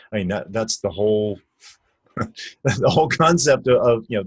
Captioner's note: laughs